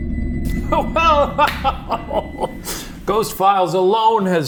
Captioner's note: laughs; hands clapping